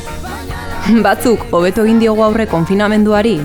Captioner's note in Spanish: riéndose